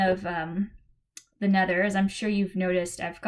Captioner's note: click